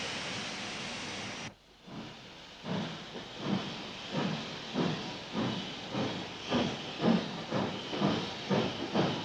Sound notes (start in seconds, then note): 3.7 train passes